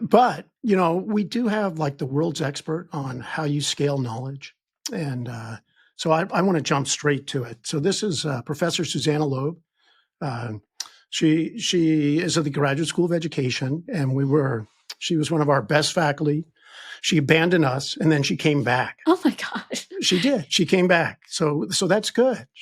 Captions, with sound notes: but, you know, we do have, like, the world's expert on how you scale knowledge, and so I wanna jump straight to it. So this is Professor Susanna Loeb. She is at the Graduate School of Education, and she was one of our best faculty. She abandoned us, and then she came back. - Oh my gosh. (chuckles) - She did, she came back, so that's good.